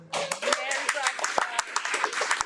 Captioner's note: audience applauding